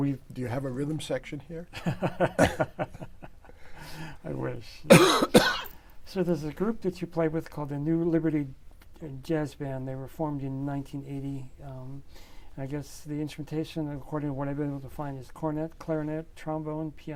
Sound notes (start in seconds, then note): 1.8 laughs; 4.8 coughs